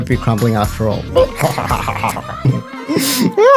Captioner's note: nom nom nom nom nom